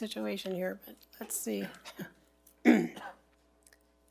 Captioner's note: chuckles